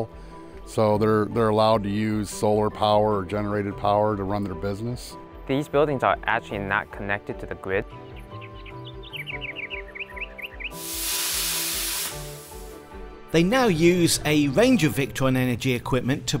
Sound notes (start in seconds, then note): 7.8 birds tweeting; 10.8 machine sparking